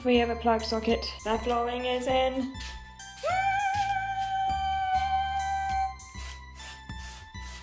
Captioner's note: excited squeaking